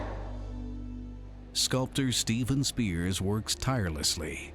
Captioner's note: emotional music; low thuds